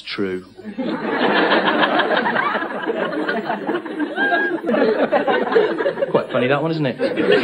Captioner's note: laughter